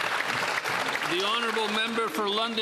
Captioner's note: applause